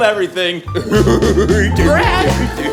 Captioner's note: weird laughter